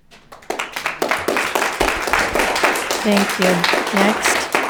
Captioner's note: audience clapping